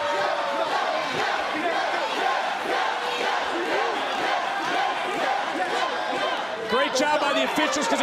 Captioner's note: crowd chants "yes"